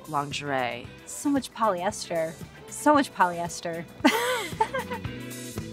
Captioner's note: laughs; upbeat disco music